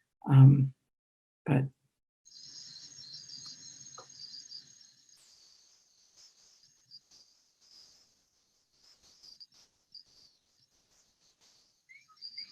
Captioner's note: soundscape: crickets, bird sounds